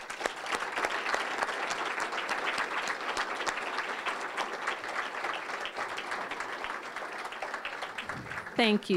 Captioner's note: applause